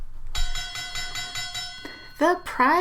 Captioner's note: bell ringing